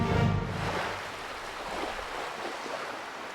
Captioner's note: soft lapping of the waves against the shore